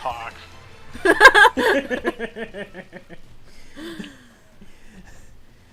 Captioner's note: disappointment in the form of laughter as effectively kills his own joke